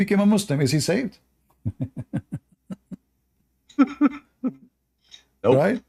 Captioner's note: Ketawa